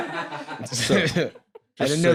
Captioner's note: scattered laughter